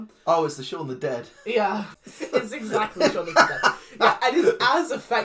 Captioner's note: laughs